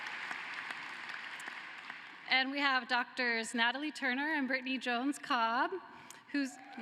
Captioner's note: cheering and applause